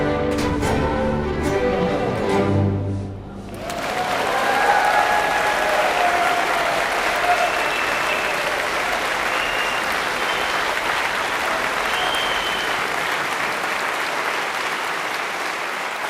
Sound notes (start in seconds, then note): 3.4 applause